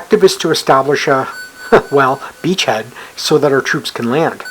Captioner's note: chuckles